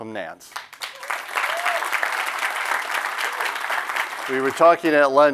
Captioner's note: audience applauds